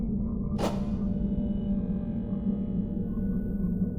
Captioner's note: clicking